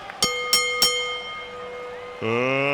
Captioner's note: bell dinging